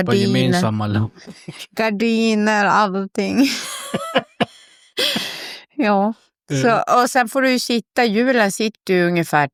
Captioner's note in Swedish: skratt